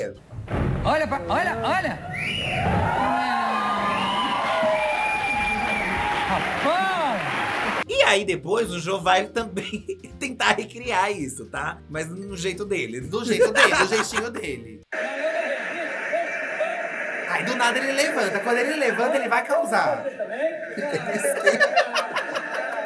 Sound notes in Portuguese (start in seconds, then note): 2.2 plateia grita e aplaude